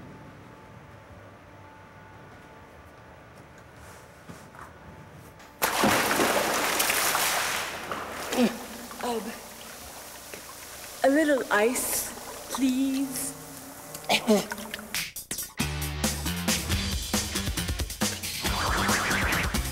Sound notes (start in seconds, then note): 5.8 water splashing; 12.9 sputters